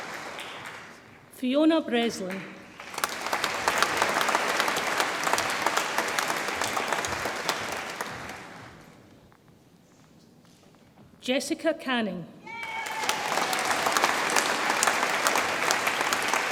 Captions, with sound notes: Fiona Breslin, (audience applauds) Jessica Canning, (audience applauds and cheers)